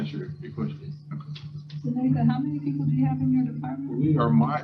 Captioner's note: speaker off microphone